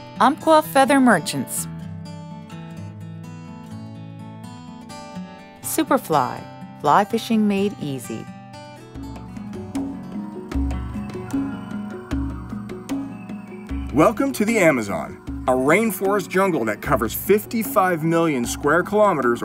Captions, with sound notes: Umpqua Feather Merchants. Superfly. Fly fishing made easy. - [Voiceover] Welcome to the Amazon. A rainforest jungle that covers 55 million square kilometers